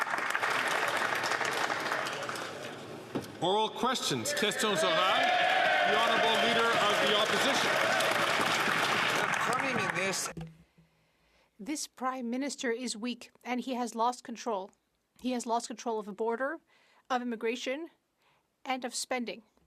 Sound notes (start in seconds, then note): 0.3 some Applause; 9.1 speaking French; 11.0 some Applause